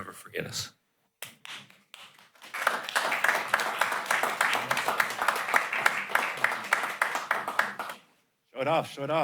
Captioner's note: applause